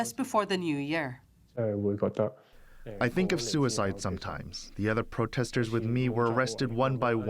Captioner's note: through translator